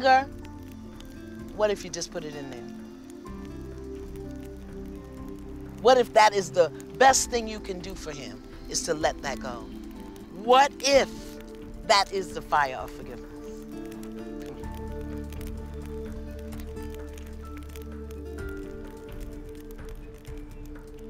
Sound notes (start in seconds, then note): none